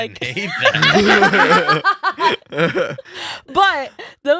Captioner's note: laughing